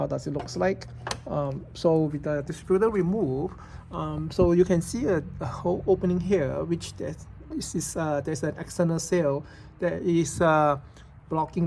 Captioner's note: engine